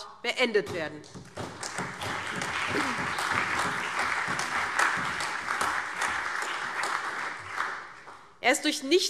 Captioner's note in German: Beifall SPD, CDU, BÜNDNIS 90/DIE GRÜNEN, AfD und Freie Demokraten